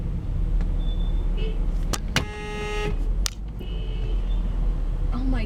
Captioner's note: car honks; car beeps horn; honks horn